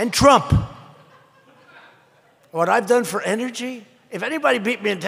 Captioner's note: laughter